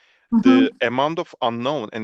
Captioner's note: Kısa ünlem